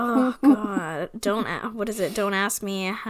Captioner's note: sighs